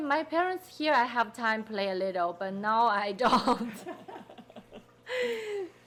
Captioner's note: laughing